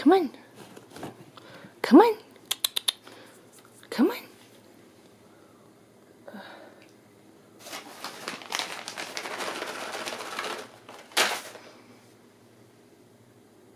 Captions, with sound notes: Come on. Come on. (clicks tongue) Come on. (plastic bag rustles)